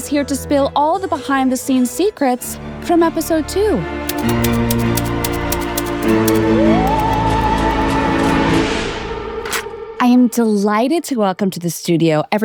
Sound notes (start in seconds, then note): 4.0 suspenseful music; 4.1 typewriter clicking